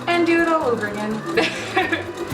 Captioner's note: laughs